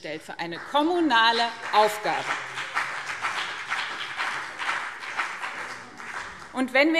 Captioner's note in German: Beifall BÜNDNIS 90/DIE GRÜNEN